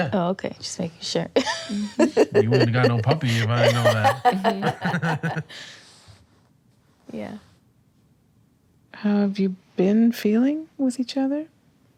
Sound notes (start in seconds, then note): 4.4 laughter